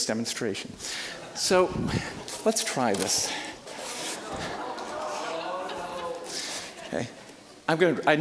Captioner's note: audience laughing